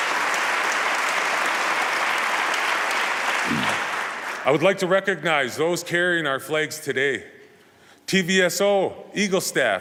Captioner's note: applause